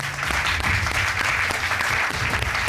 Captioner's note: applause